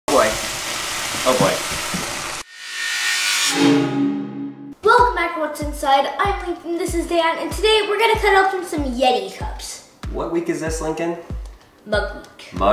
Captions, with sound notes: - Oh boy! (water steaming) Oh boy! (metallic grinding) - Welcome back, What's Inside. I'm Linc and this is dad, and today we're gonna cut open some Yeti cups. - What week is this Lincoln? - Mug Week.